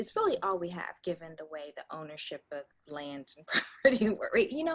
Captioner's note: laughs